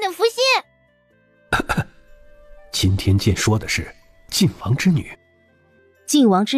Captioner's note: cough